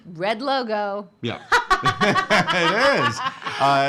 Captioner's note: laughing